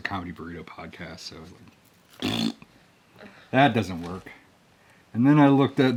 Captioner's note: blowing a raspberry